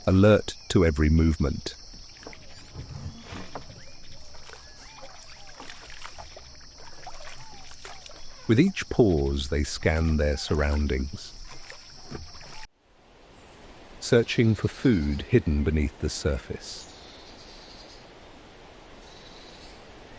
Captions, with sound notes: alert to every movement. With each pause, they scan their surroundings, searching for food hidden beneath the surface. [birds chirping]